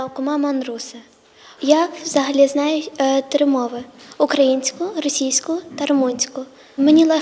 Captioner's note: Ukrainian